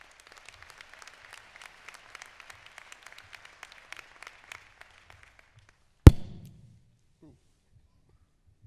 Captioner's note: applause